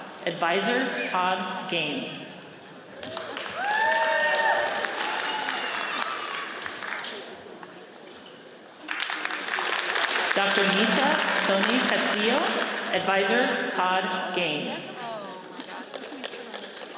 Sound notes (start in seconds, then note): 3.1 audience cheers and applauds; 8.8 audience applauds